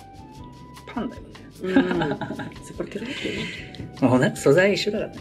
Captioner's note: laughs